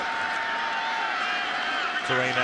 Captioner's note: cheering